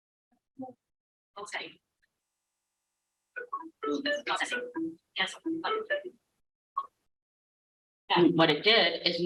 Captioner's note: sound indicating document is processing